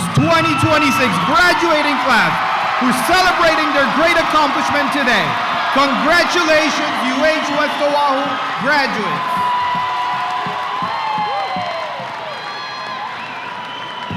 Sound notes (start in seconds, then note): 5.5 very loud cheers and applause; 10.1 loud cheers and applause continue